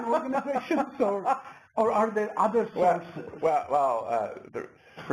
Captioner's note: laugh